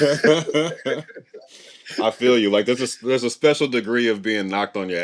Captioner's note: laughing